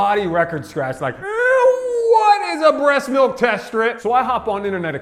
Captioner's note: squeals